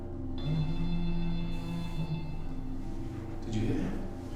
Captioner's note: phone rings